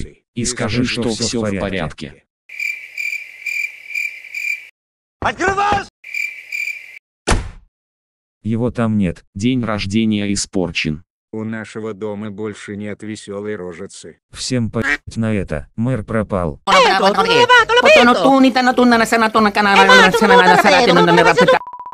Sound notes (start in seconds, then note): 2.5 cricket sound; 6.0 cricket sound